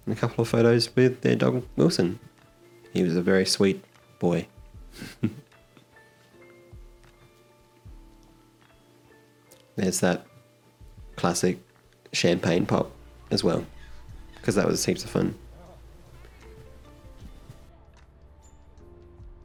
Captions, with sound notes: And a couple of photos with their dog, Wilson. He was a very sweet boy. (chuckles) (gentle music) There's that classic champagne pop, as well 'cause that was heaps of fun. (gentle music)